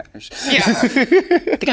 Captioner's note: Sasha laughing